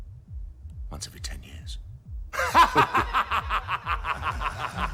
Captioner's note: laughing